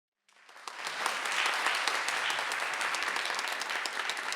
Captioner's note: audience applauding